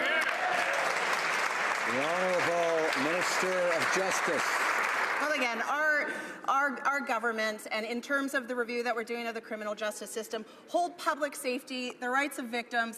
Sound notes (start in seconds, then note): 3.7 some Applause